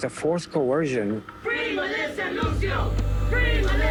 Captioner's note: chanting